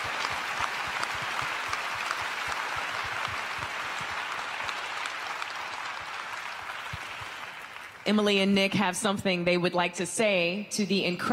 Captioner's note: cheers and applause